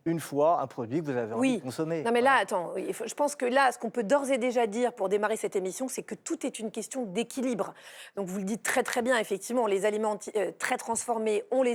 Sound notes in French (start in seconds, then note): none